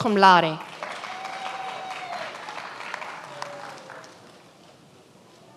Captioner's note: many applauding